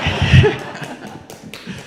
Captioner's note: audience laughing